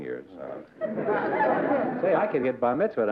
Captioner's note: laughter